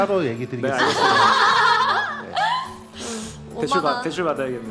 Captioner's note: laughter